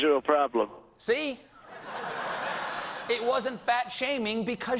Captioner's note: laughter